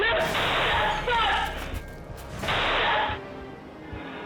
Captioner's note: gun shot